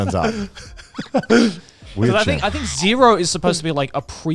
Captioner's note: everyone laughing